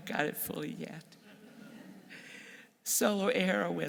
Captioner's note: audience laughs